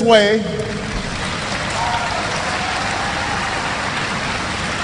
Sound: applause

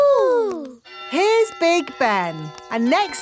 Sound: clock chimes

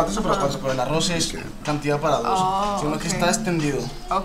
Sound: speaking Spanish

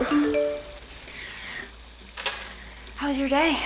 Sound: phone chimes

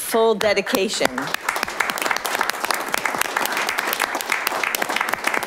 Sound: audience applause

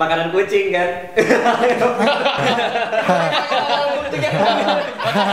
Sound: laugh; laugh awkwardly; continued laughters

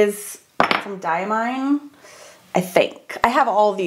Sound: lid clangs

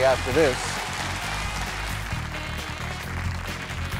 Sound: crowd clapping

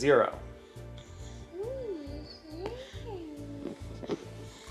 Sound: mumbles

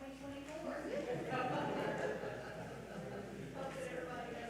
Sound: all laugh

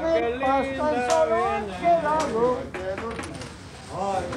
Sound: talking amongst themselves

